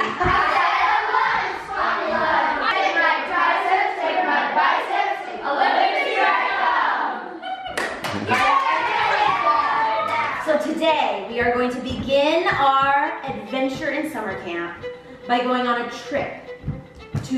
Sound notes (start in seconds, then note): 8.4 kids cheering